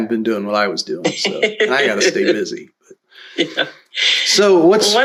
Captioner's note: laughter